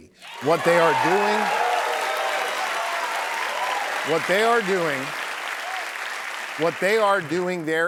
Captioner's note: applause